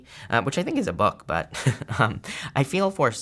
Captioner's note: chuckles